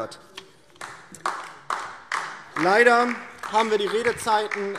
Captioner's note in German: Beifall DIE LINKE